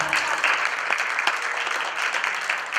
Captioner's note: applause